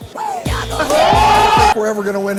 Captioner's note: crowd: OHHHH